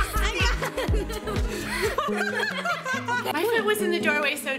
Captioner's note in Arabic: يضحك; ضحك